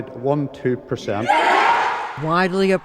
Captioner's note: cheering